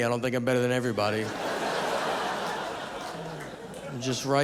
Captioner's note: audience laughing